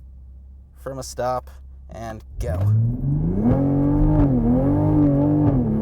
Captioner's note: engine revving